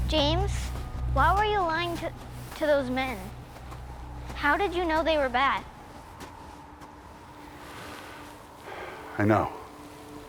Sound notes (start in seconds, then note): 7.0 wind whooshing